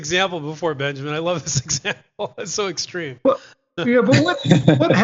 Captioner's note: laughs